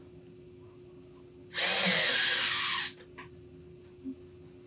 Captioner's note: drill whirring